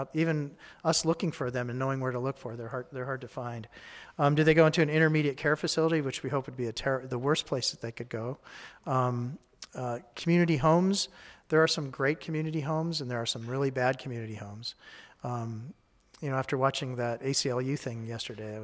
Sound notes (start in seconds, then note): none